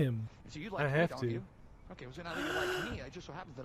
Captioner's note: puppet gasps